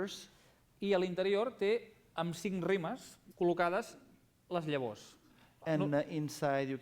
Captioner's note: non-english speech